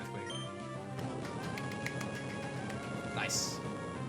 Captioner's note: claps